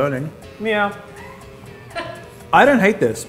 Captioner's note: laughs